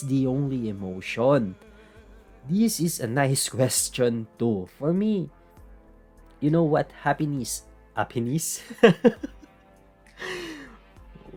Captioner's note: laugh